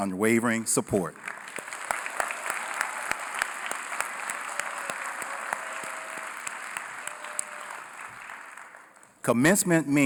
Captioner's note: applause